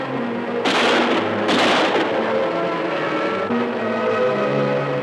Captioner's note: guns firing